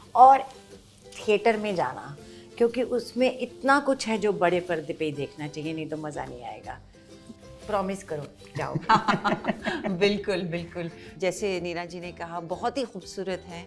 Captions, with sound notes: Go to the theaters. There is so much that you have to enjoy it on the big screen otherwise it won't be fun. Promise me, you'll go? -[Chuckles] -Absolutely, absolutely! As Neena ji, said, it is very beautiful.